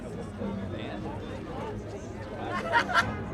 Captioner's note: indistinct chatter